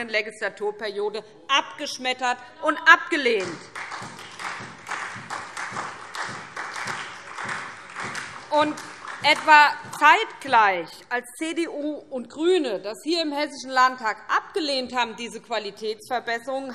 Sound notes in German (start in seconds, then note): 3.4 Beifall SPD